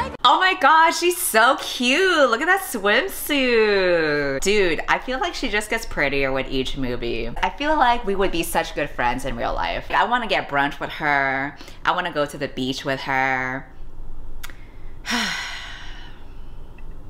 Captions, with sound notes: Oh my god! She's so cute! Look at that swimsuit! Dude, I feel like she just gets prettier with each movie. I feel like we would be such good friends in real life. I wanna get brunch with her, I wanna go to the beach with her. [sighs]